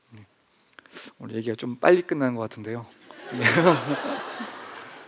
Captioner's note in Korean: 웃음